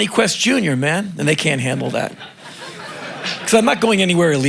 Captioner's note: crowd laughing